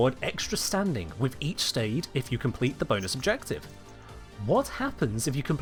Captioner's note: ears jingle